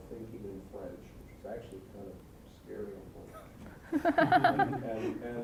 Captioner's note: audience laughing